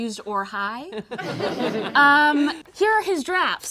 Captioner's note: all laugh